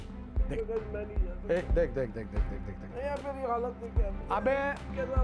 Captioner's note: Karan in a faint voice